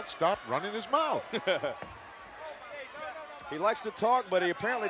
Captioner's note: laughing